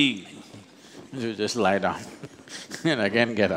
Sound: laughs

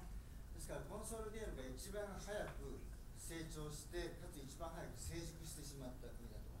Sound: speaking in foreign language

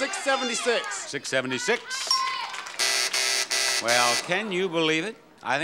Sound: bell buzzing

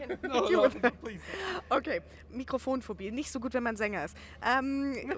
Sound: in German

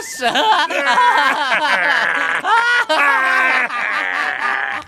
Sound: <i> laughing</i>; <i> still laughing...</i>

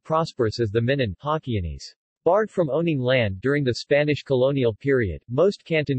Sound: Hokkienese

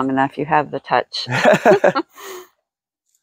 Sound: laughing

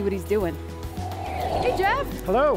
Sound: air whooshing

